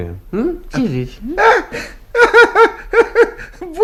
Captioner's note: laughs